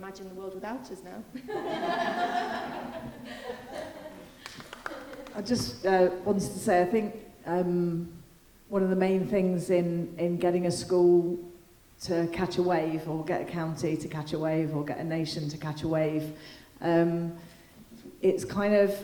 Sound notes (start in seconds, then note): 1.4 all laughing